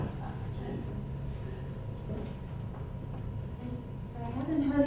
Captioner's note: laughter